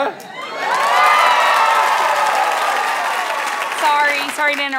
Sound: audience applause

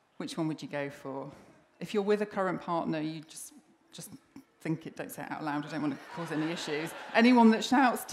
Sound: laughter

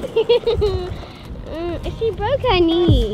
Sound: laughing

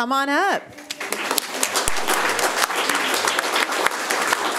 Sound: room applauds

